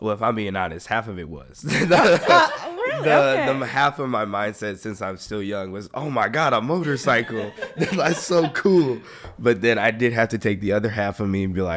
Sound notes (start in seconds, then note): 1.6 all laughing